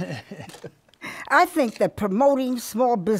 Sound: laughs

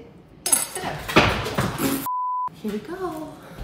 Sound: chair clattering

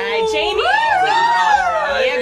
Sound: cheers

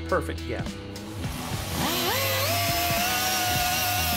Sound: machine whirs

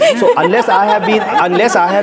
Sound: laughing

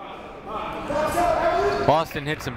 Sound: shouting

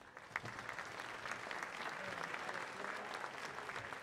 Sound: audience applauding

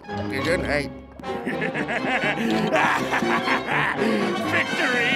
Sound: laughing

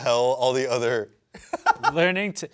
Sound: laughs

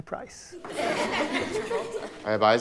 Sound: students chuckling

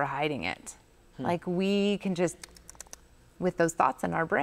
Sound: chomping lips

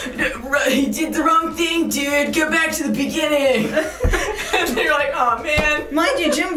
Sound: laughing

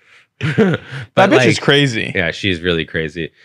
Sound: laughs

